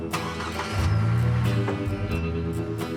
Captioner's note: engine starts